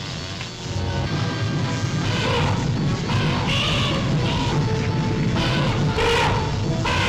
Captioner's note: intense music; elephants trumpeting